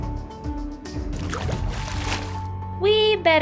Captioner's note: splashing